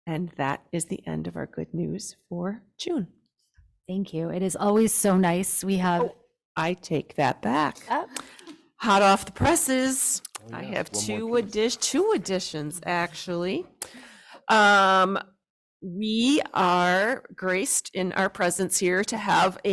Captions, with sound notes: And that is the end of our good news for June. >>Thank you. It is always so nice we have- >>Oh, I take that back. >>Oh. (laughs) Hot off the presses. >>Oh yes, one more piece. >>I have two additions actually. We are graced in our presence here to have